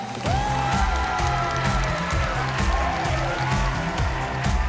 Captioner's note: cheers and applause